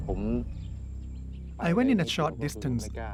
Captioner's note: speaking Thai